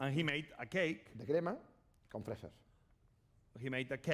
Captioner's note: speaking spanish